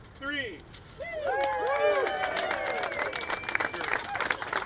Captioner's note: cheering